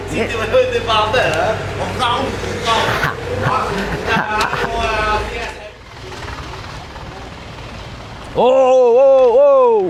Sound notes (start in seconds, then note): 2.7 chuckles